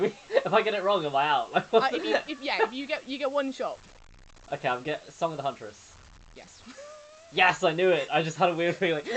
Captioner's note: laughing